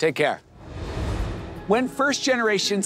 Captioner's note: air whooshing